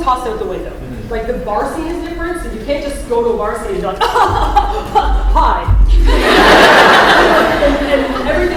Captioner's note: laughter